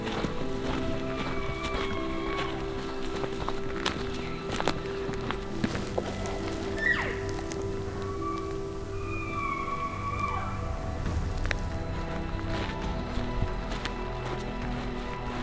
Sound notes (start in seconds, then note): 0.3 elk bugling; 6.3 caller cow calling; 8.2 elk bugling